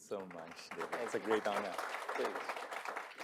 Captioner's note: audience applauding